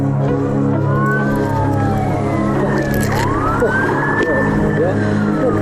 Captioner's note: police sirens wailing